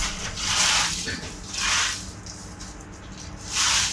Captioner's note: rake scraping